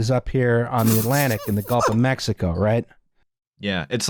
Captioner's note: sputters